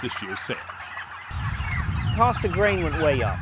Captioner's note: turkeys squawking